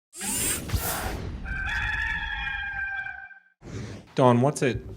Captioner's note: roster crowing